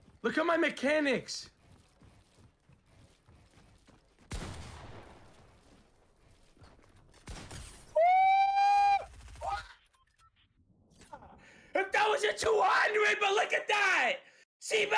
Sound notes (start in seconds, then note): 4.3 gun firing loudly; 7.8 exclaims loudly